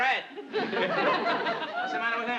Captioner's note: audience laughing